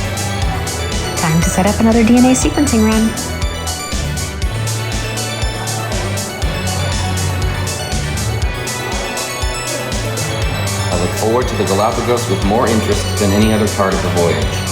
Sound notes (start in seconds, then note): none